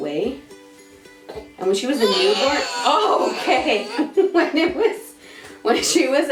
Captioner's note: baby yells